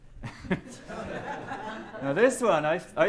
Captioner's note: laughter